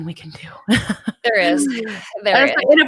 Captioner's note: laughs